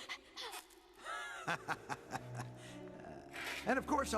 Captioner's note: evil laughter